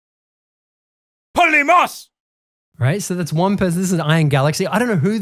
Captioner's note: man speaking Greek in recording